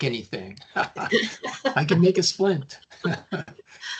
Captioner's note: chuckling